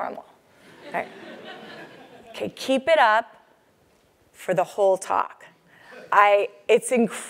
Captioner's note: laugh